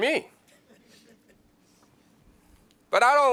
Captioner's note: laughs